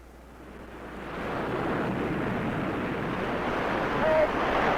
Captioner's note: waves roaring